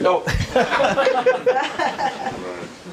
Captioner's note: laughter